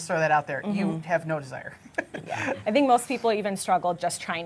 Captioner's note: laughs